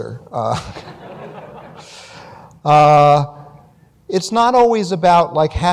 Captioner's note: laughter